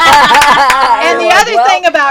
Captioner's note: laughter